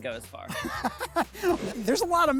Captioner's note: laughs